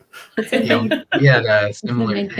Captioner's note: laughing